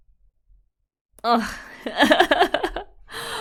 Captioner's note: laughs